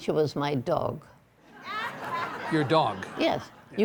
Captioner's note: audience laughing